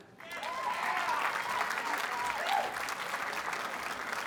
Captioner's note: audience cheers and applauds